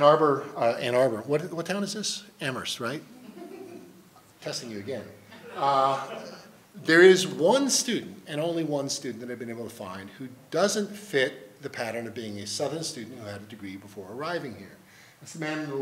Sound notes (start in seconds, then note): 3.2 laughing